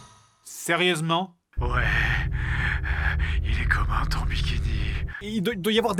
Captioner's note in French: voix radio-transmetteur